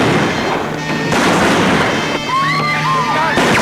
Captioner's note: gun bangs; guns bang; women scream